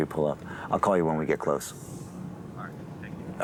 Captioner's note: on phone